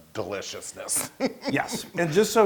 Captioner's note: laugh